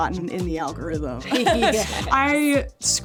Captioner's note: all laughing